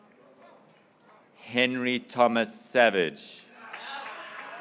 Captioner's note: graduates cheering